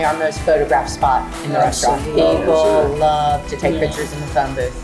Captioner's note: group agreeing